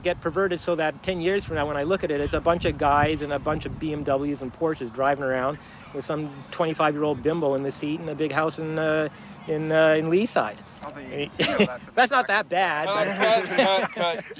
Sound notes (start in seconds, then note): 12.8 laughs